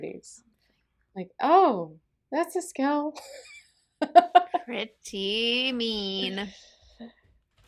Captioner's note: laughter